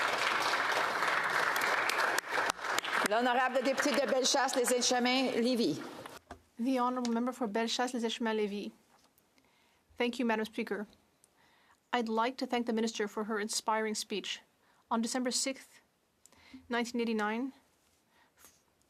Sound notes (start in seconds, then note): 7.4 speaking French